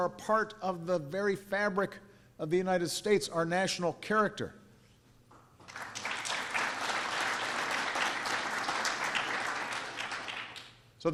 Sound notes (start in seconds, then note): 5.6 applause